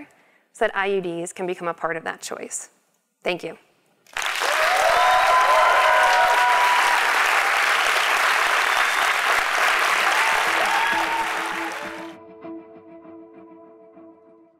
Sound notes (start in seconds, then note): 4.1 applause